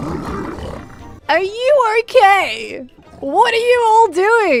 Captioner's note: many Piglins being fussy